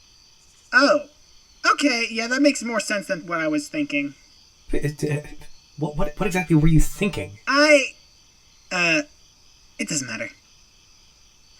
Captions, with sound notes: Oh. Okay. Yeah, that makes more sense than what I was thinking. (Ace stammers) What exactly were you THINKING? I, uh... It doesn’t matter.